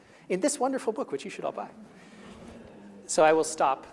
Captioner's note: chuckling